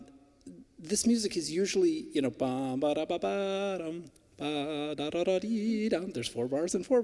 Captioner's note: humming